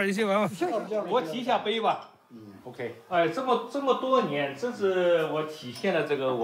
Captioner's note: speaks in Chinese language